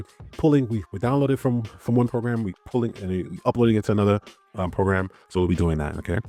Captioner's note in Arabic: شهيق